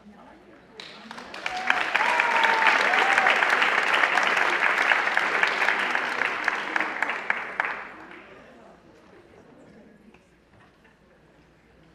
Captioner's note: applause